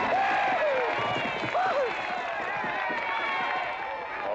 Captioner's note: hooves galloping